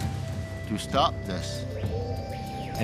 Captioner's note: birds chirping